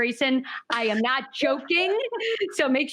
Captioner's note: laughs